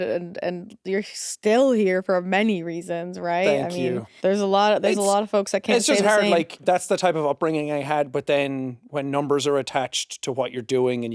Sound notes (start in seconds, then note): none